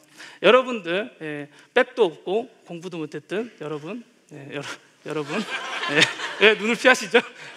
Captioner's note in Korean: 웃음